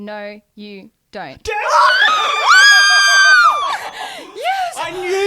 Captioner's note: screaming together